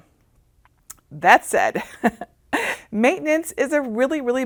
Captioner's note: laughing